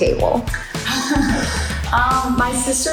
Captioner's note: laughs